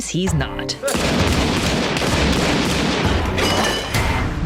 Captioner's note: gunshots